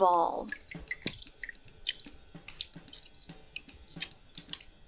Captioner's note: water drips